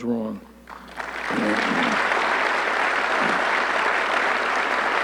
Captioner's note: audience clapping